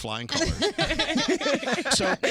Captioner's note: laughter